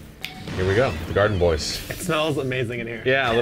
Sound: smoke plume puffs

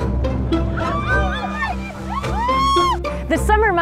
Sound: bright music; whale watchers cheering

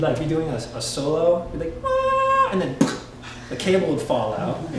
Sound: screeching; popping

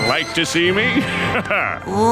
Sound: chuckling

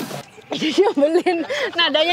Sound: chuckled

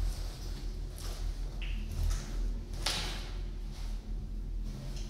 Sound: footsteps

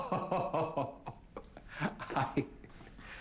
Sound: laughing

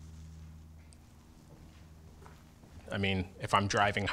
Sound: footsteps

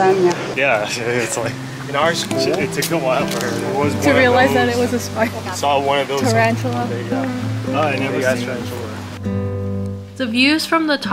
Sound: chatting

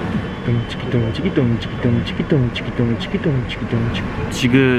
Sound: beatboxing

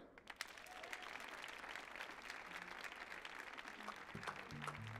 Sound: audience applauding

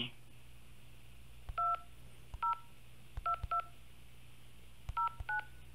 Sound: cellphone beeping

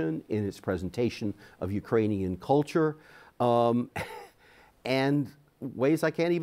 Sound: chuckles

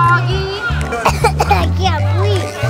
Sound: coughing

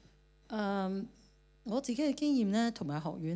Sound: Cantonese

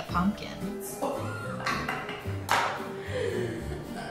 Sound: laughing

